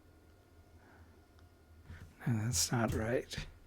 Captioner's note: silence